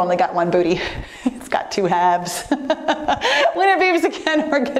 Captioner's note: laughs